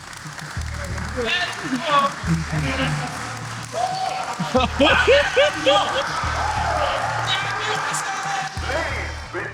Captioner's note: cheering